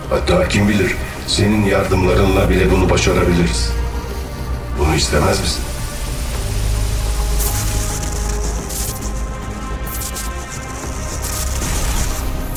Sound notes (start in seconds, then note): none